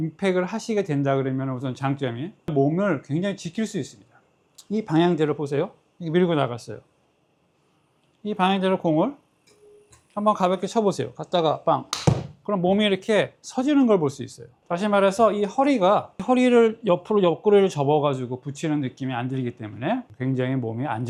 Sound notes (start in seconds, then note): 11.9 bang